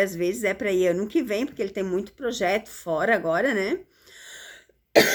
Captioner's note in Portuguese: tosse